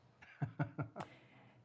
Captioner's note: laughter